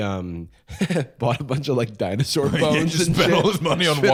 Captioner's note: laughs